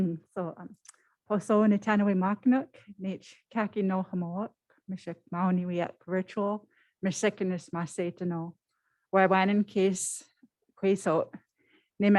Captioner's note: foreign Language